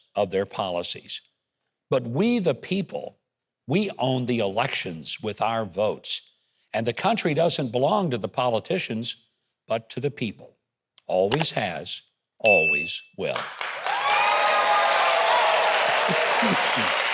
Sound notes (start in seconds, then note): 11.3 button clicks; 13.2 bell chimes; 13.3 audience applauding